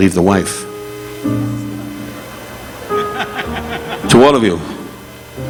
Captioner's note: audience chuckling